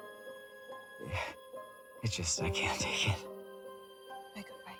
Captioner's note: sighs